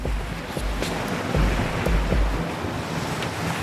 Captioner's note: wind whipping